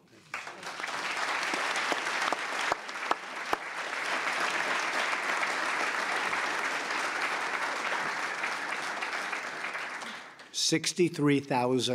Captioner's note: applause